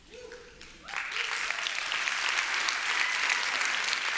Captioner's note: applause